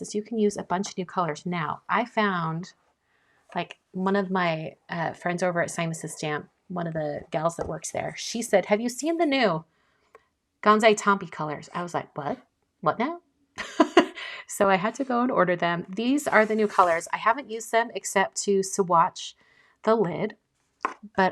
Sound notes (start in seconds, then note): 13.8 laughing